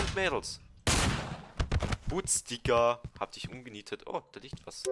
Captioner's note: revolver shot